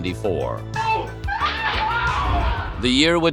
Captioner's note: screams